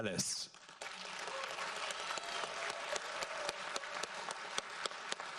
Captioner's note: audience applauds